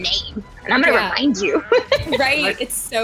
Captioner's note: laughs